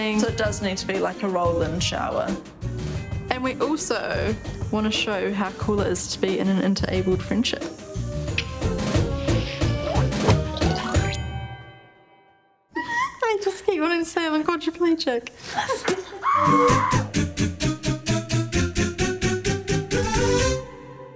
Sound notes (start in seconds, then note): 8.0 upbeat music fades; 12.5 laughs; 17.1 upbeat music fades